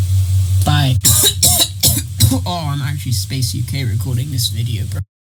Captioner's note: cough cough cough cough